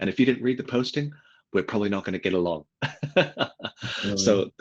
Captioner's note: laughs